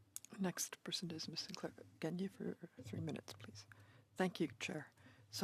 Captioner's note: speaking French